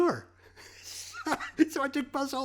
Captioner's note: laughing